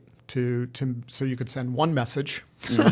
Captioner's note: chuckle